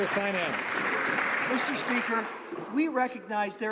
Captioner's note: some Applause